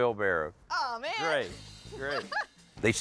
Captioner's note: laughs